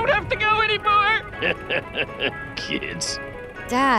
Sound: laughing

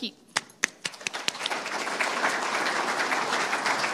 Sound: applause

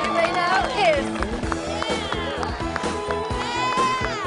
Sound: cheering

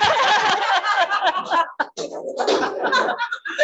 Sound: audience laughing

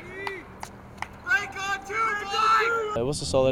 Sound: audience cheers

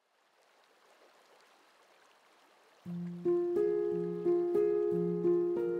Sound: water trickles, gentle music plays

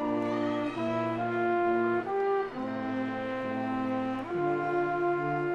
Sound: audience clamoring

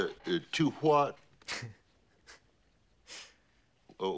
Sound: laughs

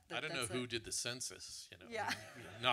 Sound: audience laughter

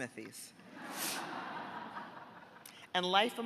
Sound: audience laughing

